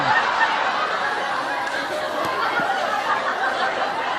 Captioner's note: the audience laughs